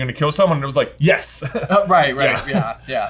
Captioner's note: chuckles; laughs